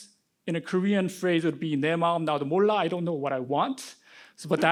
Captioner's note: speaking korean